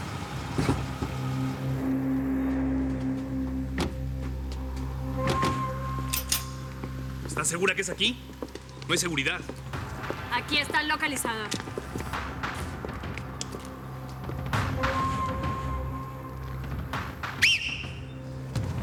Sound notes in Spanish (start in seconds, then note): 3.6 Portazos; 6.5 Rastrillan las armas